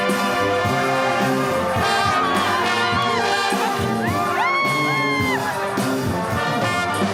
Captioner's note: cheering